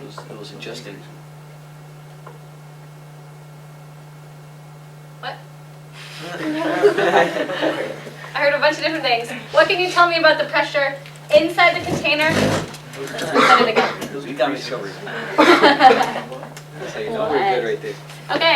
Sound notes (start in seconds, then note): 6.2 laughter; 15.1 laughter